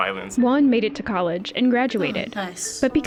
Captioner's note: voice-over